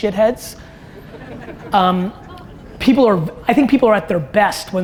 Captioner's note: audience chuckles